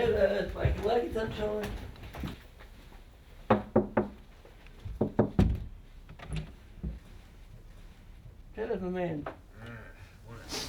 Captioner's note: knock knock